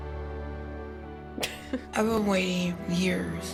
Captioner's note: inspirational music; chuckles